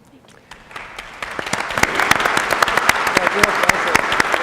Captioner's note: applauding